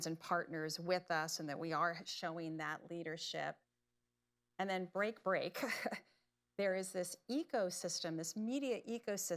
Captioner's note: laughs